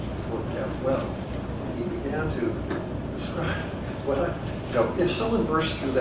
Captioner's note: laugh